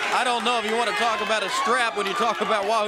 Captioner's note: crowd cheering